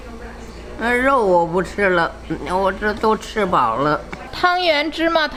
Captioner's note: speaking Chinese; grandma speaking Chinese; speaking Chinese